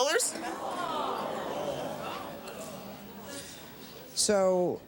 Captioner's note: crowd murmurs